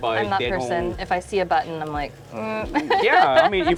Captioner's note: laughs